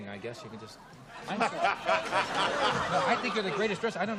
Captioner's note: laughter